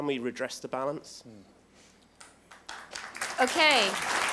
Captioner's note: applause